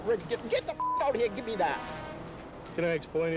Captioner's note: beep